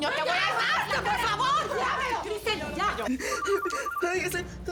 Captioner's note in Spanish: Gritos y exclamaciones; Suena un celular